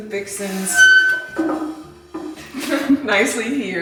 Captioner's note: furniture scraping; chuckles